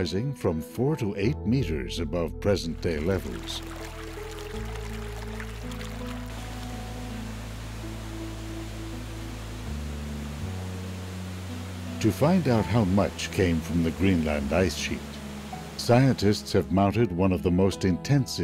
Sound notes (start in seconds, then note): 4.4 gentle music; 4.4 water flowing